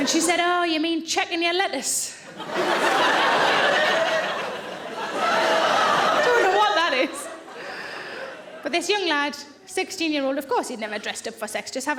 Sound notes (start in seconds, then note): 2.3 audience laughing